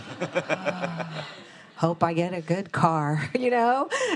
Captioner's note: attendees and moderators laughing